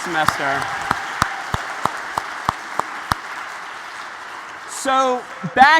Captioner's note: applause